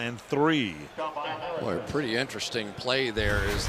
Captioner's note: pa announcement